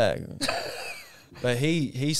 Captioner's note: laughing